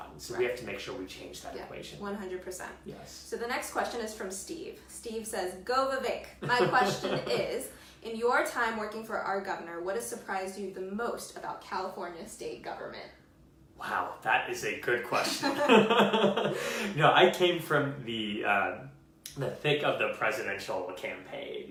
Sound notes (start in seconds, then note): 6.4 laughs; 15.2 laughs